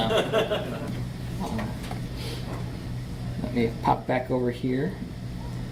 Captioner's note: audience laughs